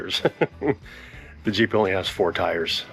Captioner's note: laughs